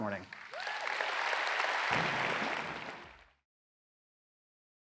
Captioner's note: audience applauds